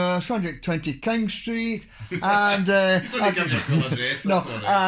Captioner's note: laughs